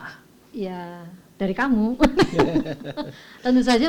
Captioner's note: laugh